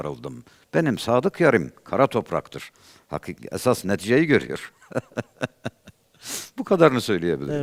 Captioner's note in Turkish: kahkaha